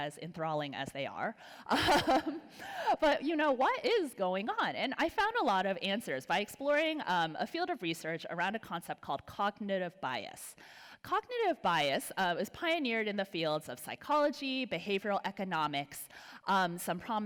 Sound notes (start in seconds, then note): 1.7 laugh